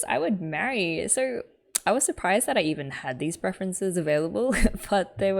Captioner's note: laughs